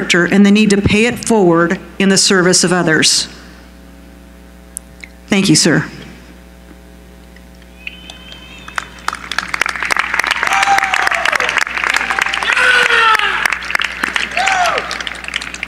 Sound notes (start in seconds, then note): 8.2 applause